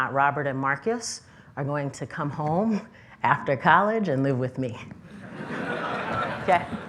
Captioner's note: laughter